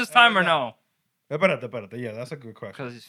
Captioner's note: non-english Speech